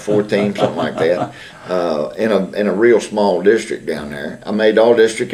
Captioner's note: laughter